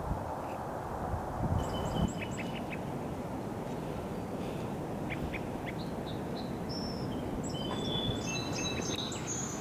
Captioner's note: distant bird calls; closer bird calls